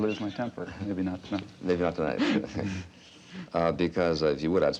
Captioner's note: chuckling